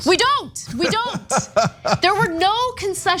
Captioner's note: laugh